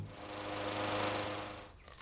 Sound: lawnmower running

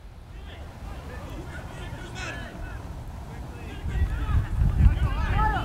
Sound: players talking and yelling

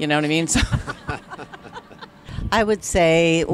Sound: laughs

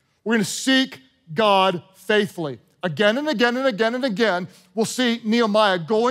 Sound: none

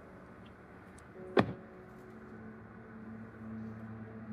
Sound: car doors close

